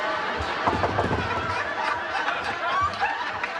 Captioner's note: knocking on door